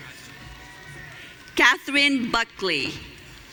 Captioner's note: audience cheering